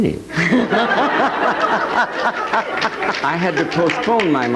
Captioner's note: audience laughing